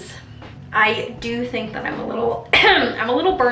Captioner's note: clears throat